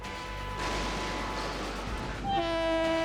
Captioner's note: horns honking; vehicles thudding; train horn honking